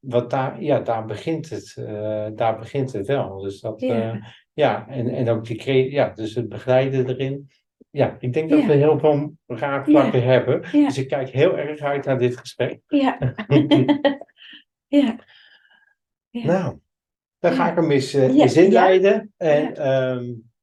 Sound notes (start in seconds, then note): 13.2 laughing noises